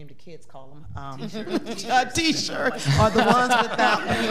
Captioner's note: all laughing